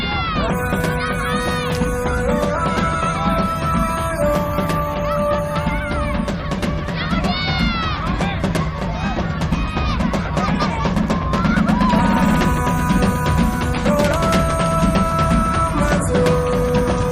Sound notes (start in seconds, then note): 7.1 children yelling; 14.6 non-english singing